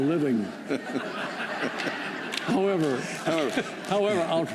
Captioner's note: laughter